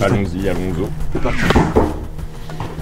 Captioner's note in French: toc à la porte